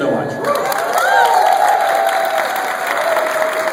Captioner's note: applause